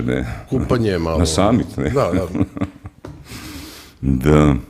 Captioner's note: laughter